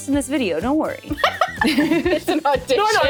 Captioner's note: laughs